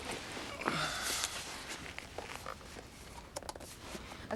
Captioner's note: Drew sighs